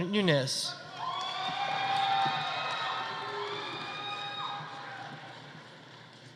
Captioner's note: audience cheering; audience applauding